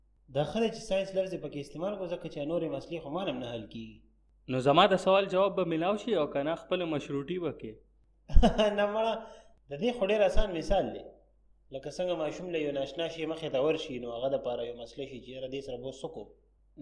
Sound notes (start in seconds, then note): 8.3 chuckles